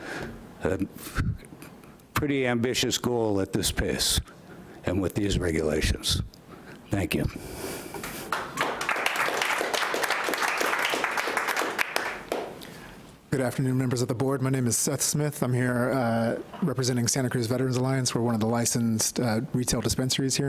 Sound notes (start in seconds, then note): 8.2 clapping